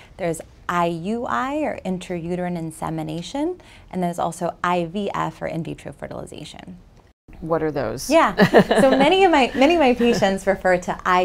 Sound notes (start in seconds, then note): 8.4 laughs